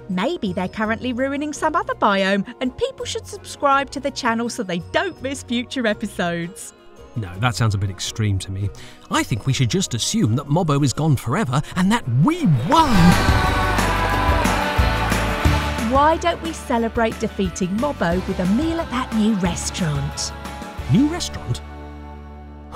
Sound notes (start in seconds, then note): 12.8 applause, Music